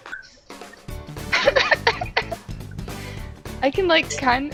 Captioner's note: chuckling